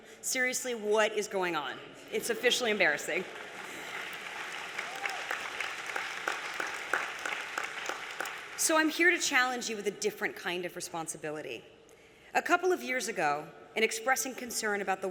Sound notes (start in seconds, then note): 2.8 applause